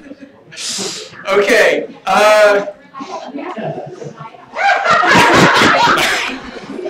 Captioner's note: laughter